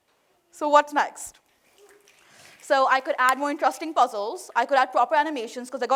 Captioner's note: applause